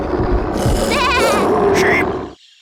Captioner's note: sheep bleating fearfully